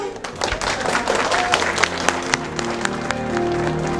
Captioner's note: applause